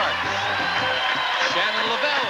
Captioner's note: audience cheering